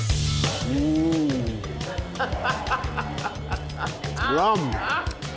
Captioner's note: upbeat funky music; laughing